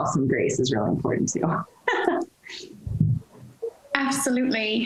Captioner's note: laughs